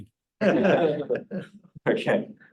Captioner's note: laughter